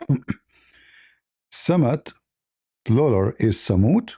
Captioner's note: clears throat